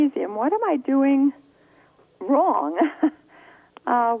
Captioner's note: chuckles